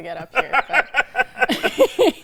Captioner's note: laughing